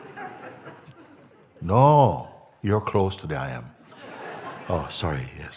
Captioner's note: Lachen; Lachen